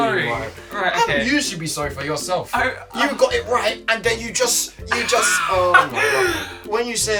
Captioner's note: laughter